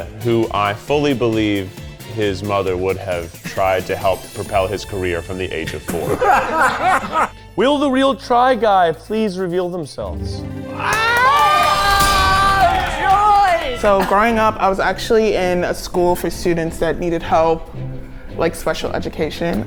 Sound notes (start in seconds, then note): 5.8 all laughing; 10.9 all shouting